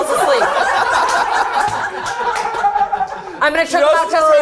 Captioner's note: all laughing